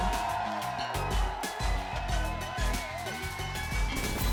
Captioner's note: audience cheers